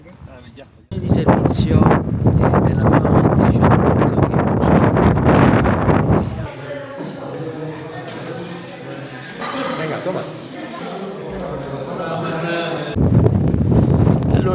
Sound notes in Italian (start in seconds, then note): 4.1 Vento forte